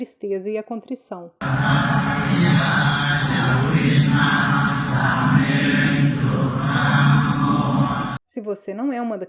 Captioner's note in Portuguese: murmúrio de oração em um templo